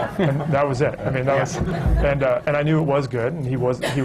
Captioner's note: laughter